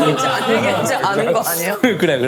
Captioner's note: giggling